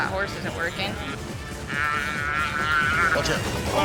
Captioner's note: calf bellowing